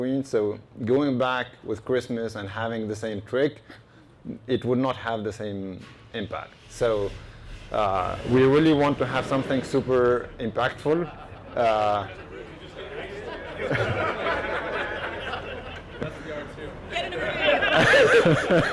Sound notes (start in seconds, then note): 11.3 engine revs nearby; 13.7 laughing